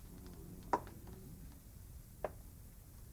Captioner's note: footsteps